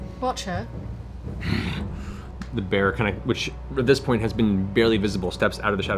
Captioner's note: grunts